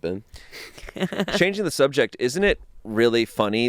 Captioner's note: laughs